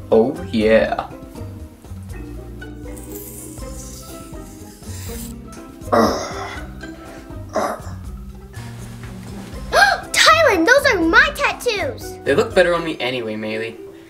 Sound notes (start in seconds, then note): 5.9 growl; 9.7 gasp